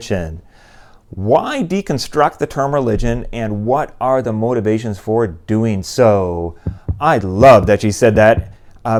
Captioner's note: heartbeat